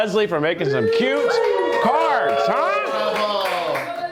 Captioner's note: crew cheers